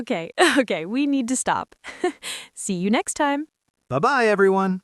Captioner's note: laughs